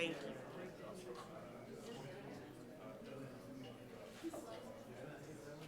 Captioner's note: background chatter